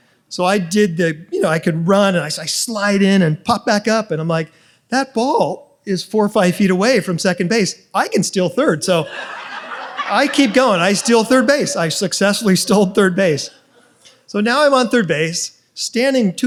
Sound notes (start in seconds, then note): 9.0 audience laughs